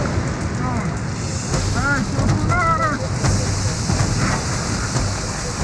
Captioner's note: boom